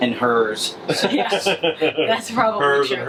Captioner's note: laughter